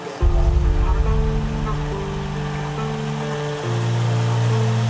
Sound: engine rumbling

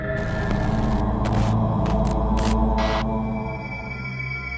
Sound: deep humming

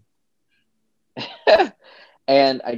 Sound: chuckles

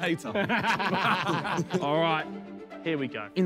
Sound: men laughing

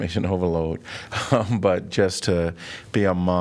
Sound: laughter

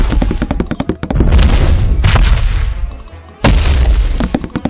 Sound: footsteps pattering; dinosaur stomping

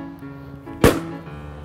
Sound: balloon pops

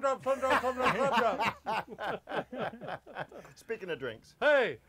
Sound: everyone laughs

